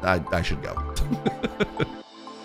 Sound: laughing

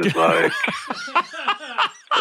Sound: laughing

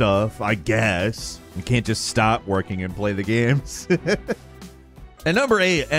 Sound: laughs

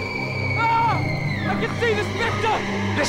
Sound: female shrieking; yelling

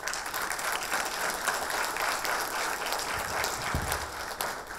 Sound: audience applause

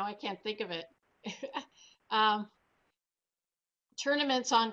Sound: laughs

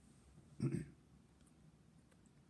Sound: clears throat

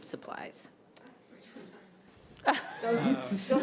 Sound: laughter

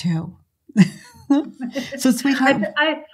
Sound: both laugh

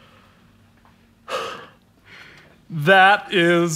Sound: gasps

